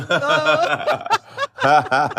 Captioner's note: laughter